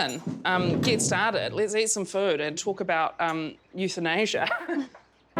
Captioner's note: giggles